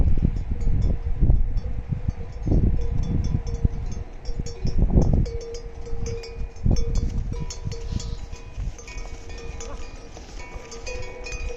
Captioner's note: cow bells